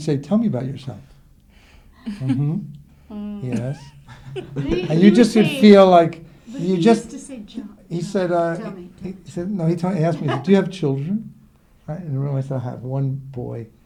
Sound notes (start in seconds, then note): 3.1 laughing; 9.8 laughs